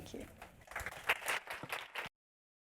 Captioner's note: applause